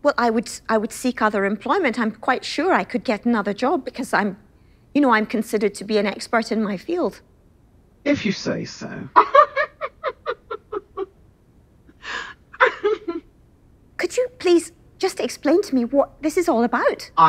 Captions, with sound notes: - Well, I would, I would seek other employment. I'm quite sure I could get another job because I'm you know, I'm considered to be an expert in my field. - If you say so (laughs). - Could you please just explain to me what this is all about?